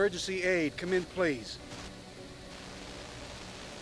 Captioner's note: static Continues